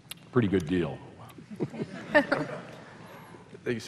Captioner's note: laughter